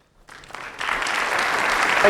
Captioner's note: audience claps